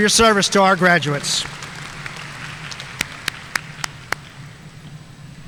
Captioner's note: audience applauding